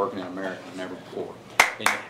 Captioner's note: applause